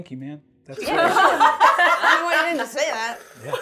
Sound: all laughing

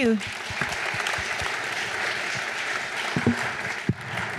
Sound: audience applauding

